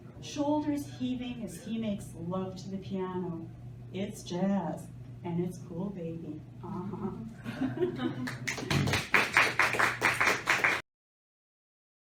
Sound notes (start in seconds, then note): 7.4 laughter and applause